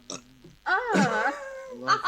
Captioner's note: electric buzzing; Andrea laughs; Phil burps